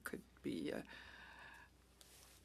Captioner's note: speaking French